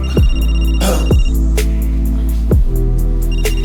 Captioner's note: phone rings